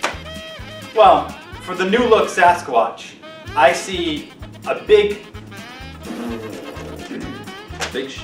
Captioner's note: blows raspberry